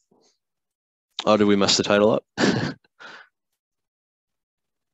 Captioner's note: chuckles